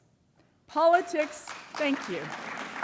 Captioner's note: applause